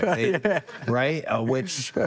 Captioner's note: laughs